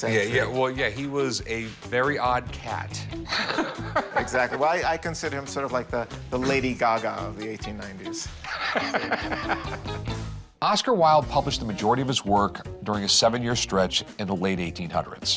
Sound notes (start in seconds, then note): 3.2 both laugh; 8.4 laughing